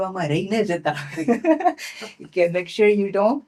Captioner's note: laughing